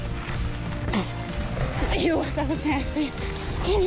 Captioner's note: spits